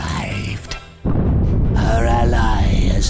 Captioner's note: boom